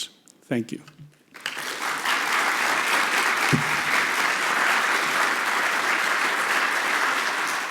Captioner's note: applause